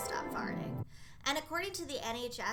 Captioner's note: dreamy noise